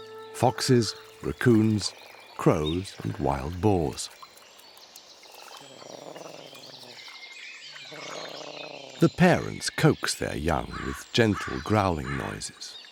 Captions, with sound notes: foxes, raccoons, crows and wild boars. [crane growling] The parents coax their young with gentle growling noises.